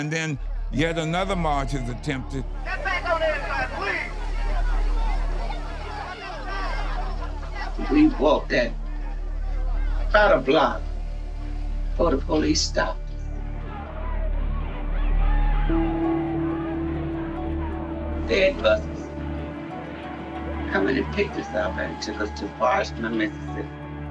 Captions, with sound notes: And then yet another march is attempted. >> Get back on the other side, please! (people shouting) >> We walked about a block before the police stopped us. (crowd shouting, chanting) They had buses come in and picked us up and took us to Parchman, Mississippi.